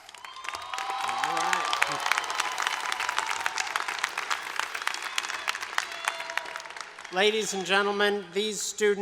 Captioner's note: applause